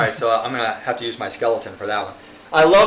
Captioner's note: host laughing